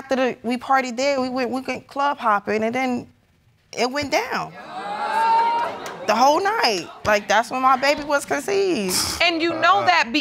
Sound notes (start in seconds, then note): 4.5 audience gasps; 8.8 scoffs